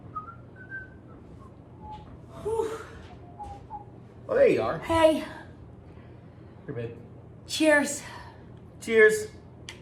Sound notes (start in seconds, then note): 0.0 whistles; 2.4 exclaims